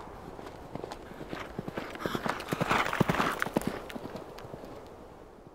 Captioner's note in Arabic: ضربات الحوافر الراكضة